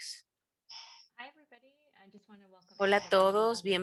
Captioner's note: hablando inglés